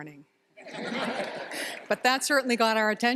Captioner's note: laughter